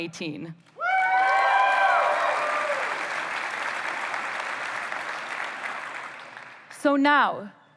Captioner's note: applause